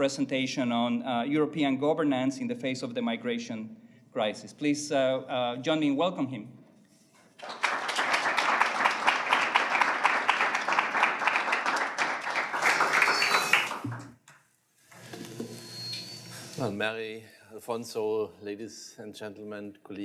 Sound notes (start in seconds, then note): 7.3 applause